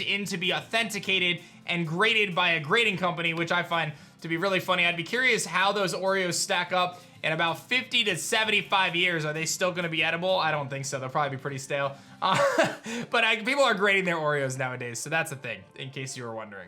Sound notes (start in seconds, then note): 12.3 chuckles